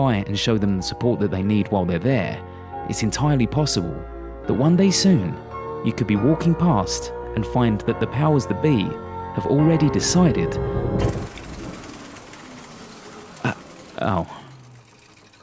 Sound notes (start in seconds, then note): 10.6 projector shutting down